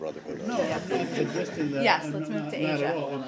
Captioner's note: laughter